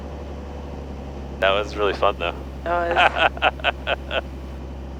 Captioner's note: laughs